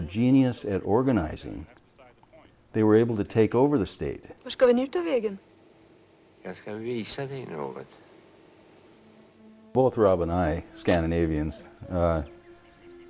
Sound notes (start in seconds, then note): 8.0 woman speaking another language; 10.6 speaking another language